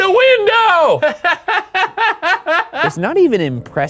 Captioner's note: cackles